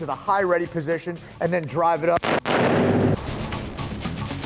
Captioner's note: gun firing